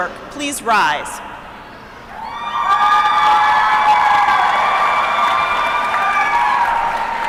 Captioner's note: applause